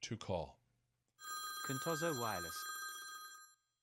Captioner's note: phone ringing